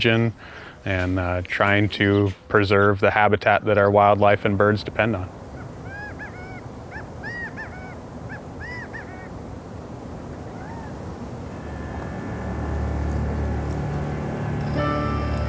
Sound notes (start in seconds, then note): 5.6 gambel's quail calling